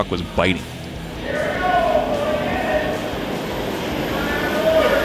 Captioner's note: shouting